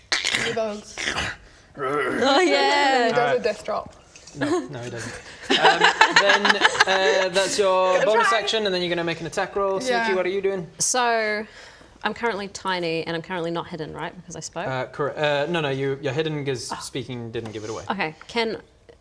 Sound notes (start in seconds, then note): 1.8 rrrgh; 4.9 laughs in coward